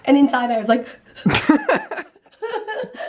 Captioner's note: breathing rapidly; both laughing